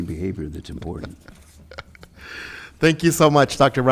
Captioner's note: chuckles